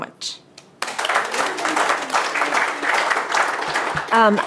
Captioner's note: applause